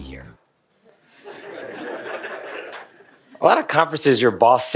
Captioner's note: laughter from the audience